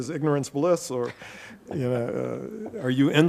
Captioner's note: laughing